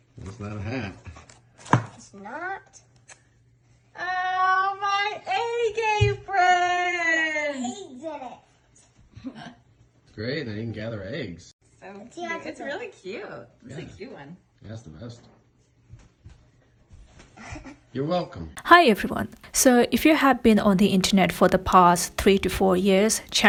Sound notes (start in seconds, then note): 9.9 laughs